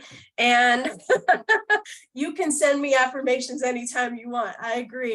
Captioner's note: laughter